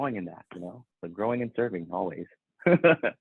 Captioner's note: laughs